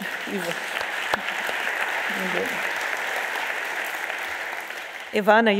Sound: audience applauds

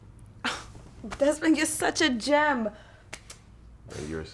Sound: Cynthia giggles

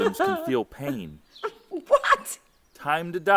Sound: laughing

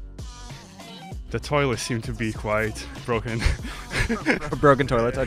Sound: laughs

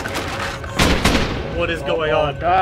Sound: crashing; gunfire

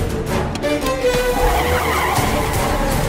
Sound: car Screeching Sound

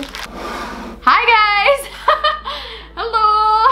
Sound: laughs

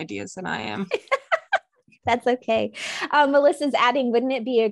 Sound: laughing

